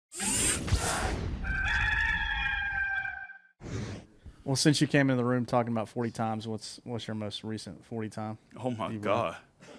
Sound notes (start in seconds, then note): 1.4 cock crows